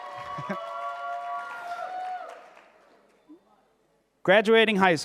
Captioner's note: audience cheering and applauding